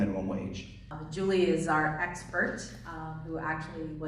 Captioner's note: voiceover